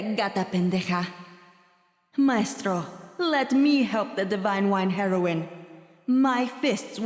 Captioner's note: in character, in Spanish